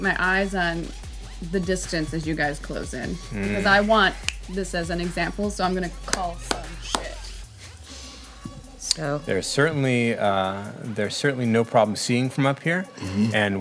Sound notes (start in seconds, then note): 4.2 fingers snapping; 6.0 clapping